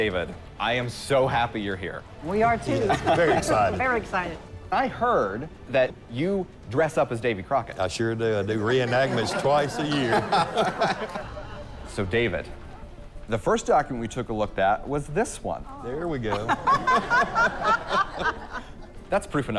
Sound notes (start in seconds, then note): 16.3 laughter